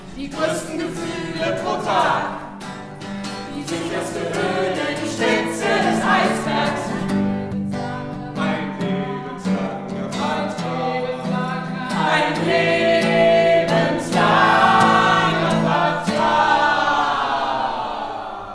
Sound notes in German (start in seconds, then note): 6.8 versetzt, mehrstimmig